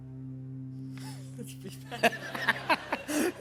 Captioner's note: laughter